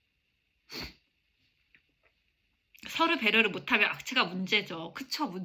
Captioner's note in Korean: 콧방귀